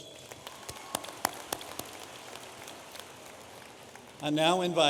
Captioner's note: audience applauding